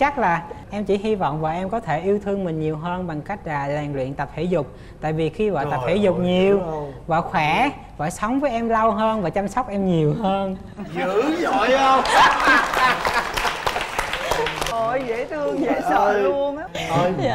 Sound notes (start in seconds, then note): 10.8 laughing